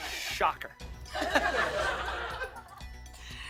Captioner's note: laughter